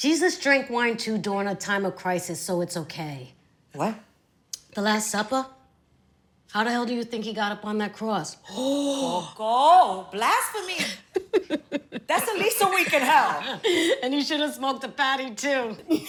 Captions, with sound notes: Jesus drank wine too during a time of crisis, so it's okay. -What? -The Last Supper? How the hell do you think he got up on that cross? [gasps] -Coco! Blasphemy! -[laughing] That's at least a week in hell! And he should've smoked a fatty, too.